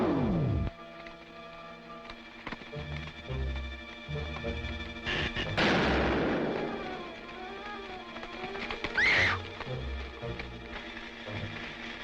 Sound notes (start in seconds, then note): 5.3 Atomgun zapping; 8.9 Diana screams